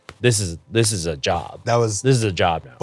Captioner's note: claps three times